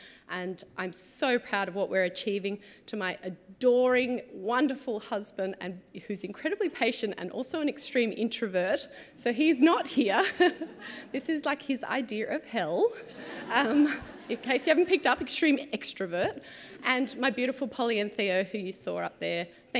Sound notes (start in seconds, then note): 13.0 chuckles